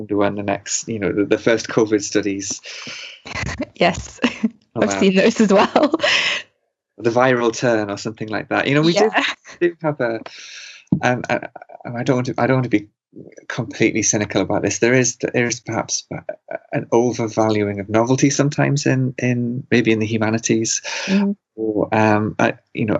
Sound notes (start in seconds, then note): 4.8 laugh